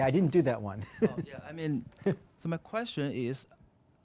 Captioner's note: laughs; voiceover